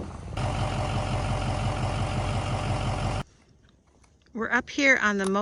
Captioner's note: engine idling